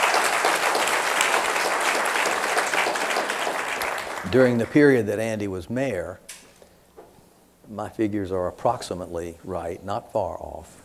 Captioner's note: applause